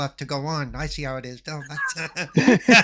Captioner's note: laughing